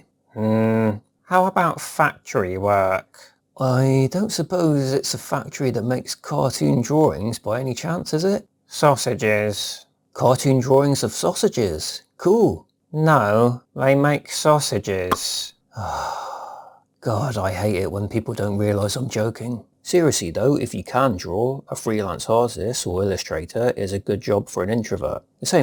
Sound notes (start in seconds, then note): 15.7 sighs